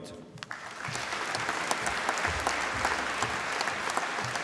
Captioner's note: applause